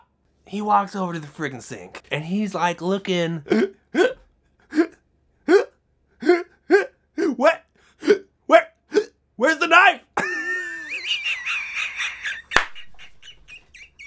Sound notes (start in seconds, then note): 3.5 hiccuping; 10.2 laughs